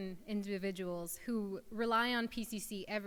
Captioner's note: none